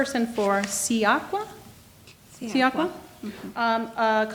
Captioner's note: speaking in foreign language